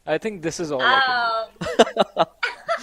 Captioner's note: laughs